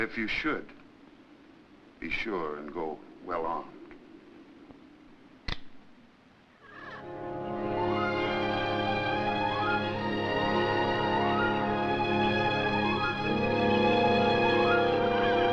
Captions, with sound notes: But if you should, be sure to go well armed. (gun clicks) (birds cawing) (soft listening music)